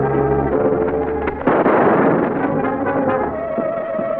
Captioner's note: suspenseful music; wings flapping; pistol firing; suspenseful music